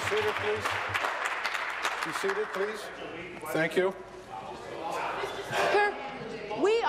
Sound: applause

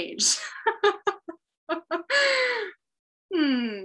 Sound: laughing

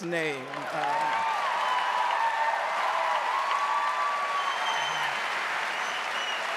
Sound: audience cheering and applauding

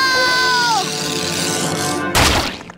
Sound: loud pop

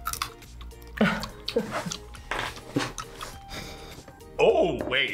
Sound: laughs

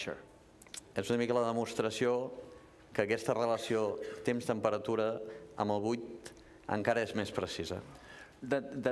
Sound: speaking catalan

